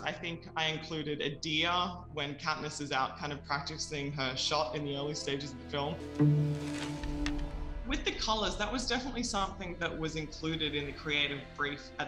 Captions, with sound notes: I think I included a deer when Katniss is out kind of practicing her shot in the early stages of the film. (leaves rustling) (pensive music) With the colors, that was definitely something that was included in the creative brief